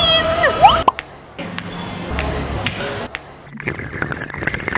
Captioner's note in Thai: เสียงเจาะชานม; เสียงดูดน้ำ